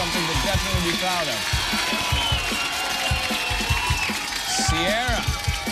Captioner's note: cheers and applause